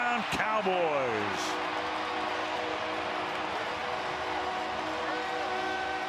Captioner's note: cheering